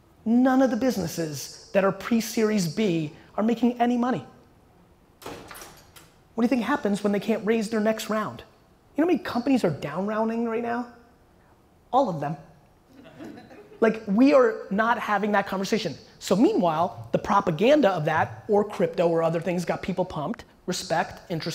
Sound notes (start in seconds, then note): 13.0 audience laughter